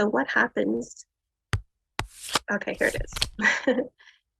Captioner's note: cards shuffling; laughs